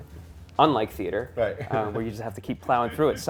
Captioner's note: laughs